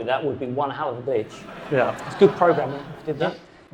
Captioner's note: audience laughing